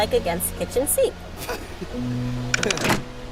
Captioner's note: light chuckle